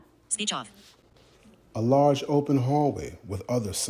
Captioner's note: voice resonating